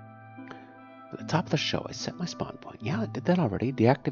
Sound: speaking to self

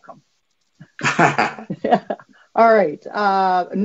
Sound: laughing

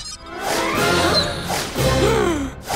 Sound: gasps

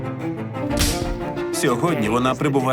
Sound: whimsical music plays; slate claps

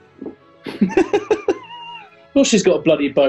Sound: giggling

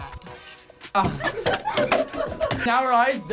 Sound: group laughs

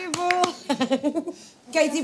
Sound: laughs

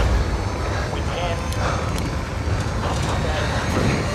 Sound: distorted radio transmission

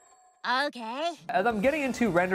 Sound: anime voice

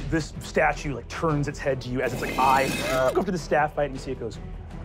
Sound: grinding

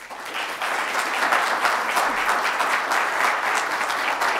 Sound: audience applauding

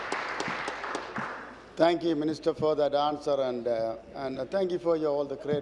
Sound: applause

